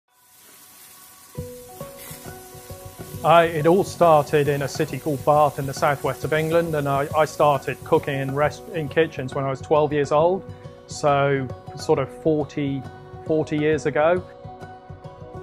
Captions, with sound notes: (meat sizzles) (upbeat instrumental music) - It all started in a city called Bath in the Southwest of England. I started cooking in kitchens when I was 12 years old, so sort of 40 years ago.